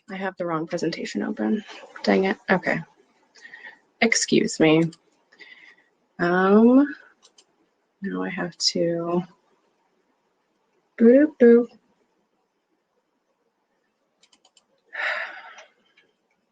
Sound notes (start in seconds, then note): 10.2 sigh